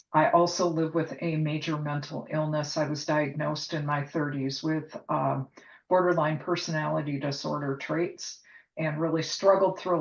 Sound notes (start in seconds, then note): none